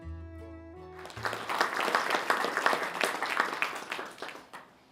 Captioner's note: applause